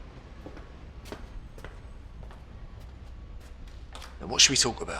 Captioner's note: footsteps pattering